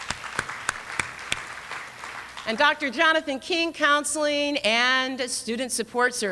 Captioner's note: applause